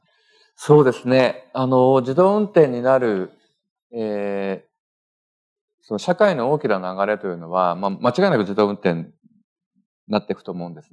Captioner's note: speaking japanese